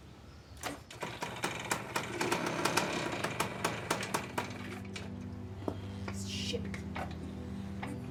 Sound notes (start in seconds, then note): 0.9 engine sputtering